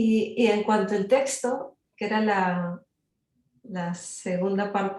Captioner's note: speaking Spanish